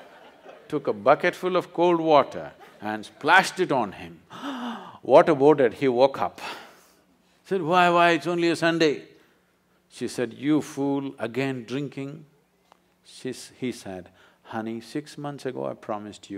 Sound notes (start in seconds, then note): 0.0 laughter; 4.3 gasps